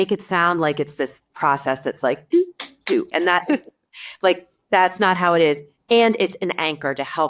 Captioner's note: slaps hands